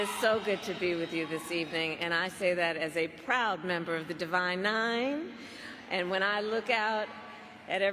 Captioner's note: cheers and applause